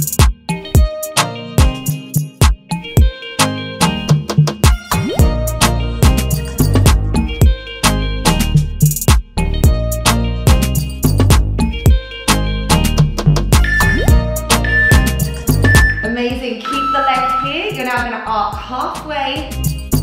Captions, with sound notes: (countdown timer beeping) Amazing. Keep the leg here. You're now going to arc halfway